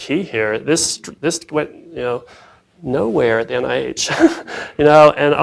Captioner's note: laughs